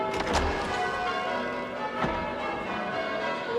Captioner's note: bells ringing